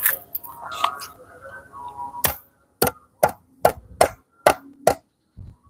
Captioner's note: glass Shards Shaken